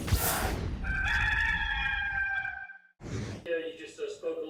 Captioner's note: rooster Crowing